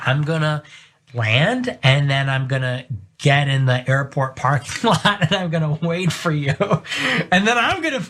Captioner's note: laugh